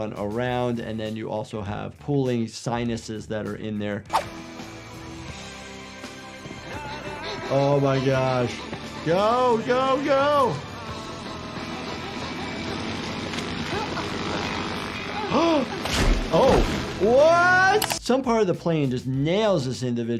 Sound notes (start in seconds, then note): 11.2 plane whizzing